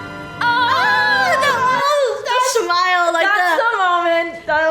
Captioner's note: screaming